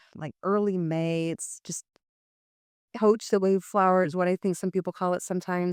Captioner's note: non-english speech